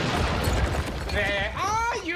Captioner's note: loud crash